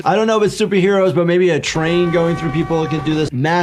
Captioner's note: horn blares